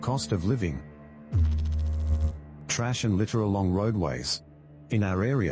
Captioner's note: electrical noise